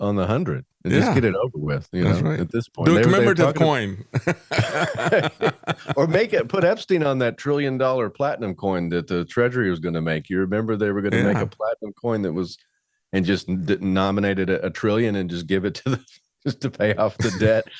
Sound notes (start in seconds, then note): 4.0 laughing